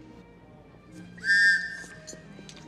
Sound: whistle go toot

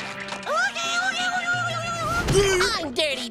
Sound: screeching

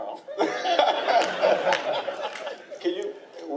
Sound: laughing

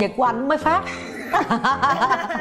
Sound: laughters

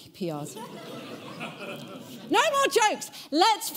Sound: audience laughing

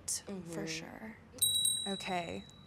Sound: bells ringing

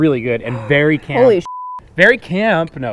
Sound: beep

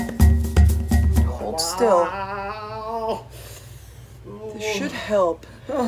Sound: lively music; groaning

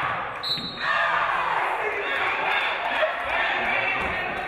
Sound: referee blows whistle

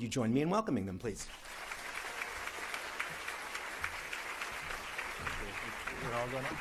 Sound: applause; cheering

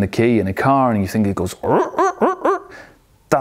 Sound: engine mimicking

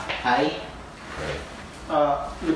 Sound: Henry speaks softly

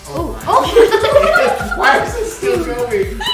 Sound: laughing

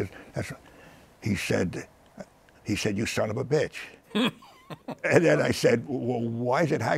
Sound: laughs

